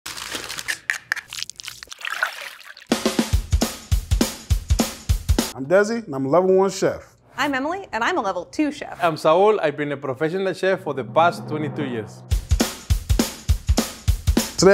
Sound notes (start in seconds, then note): 0.0 chips rustling; 0.2 chips clicking; 0.3 mix squishing; 1.2 liquid pouring; 2.9 percussive music; 12.3 percussive music